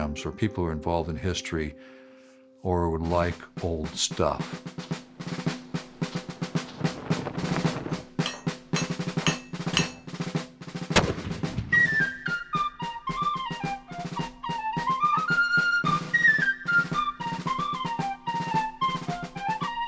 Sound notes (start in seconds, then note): 4.6 colonial music; 8.2 metal being hammered; 10.8 cannon fired; 12.2 colonial music